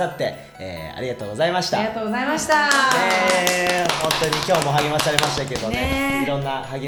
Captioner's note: applause